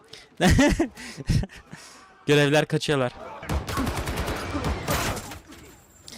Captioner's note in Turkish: kahkaha